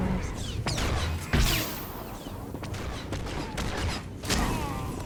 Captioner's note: gunshots